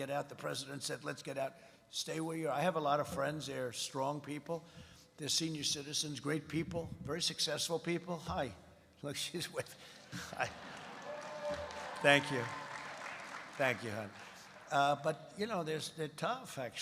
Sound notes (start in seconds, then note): 10.1 laughs; 10.1 applause